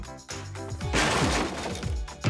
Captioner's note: crash!; ball Thumping